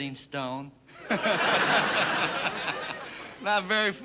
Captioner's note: audience laughing